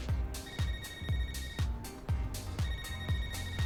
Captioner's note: phone ringing